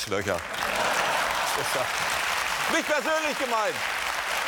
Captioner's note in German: Applaus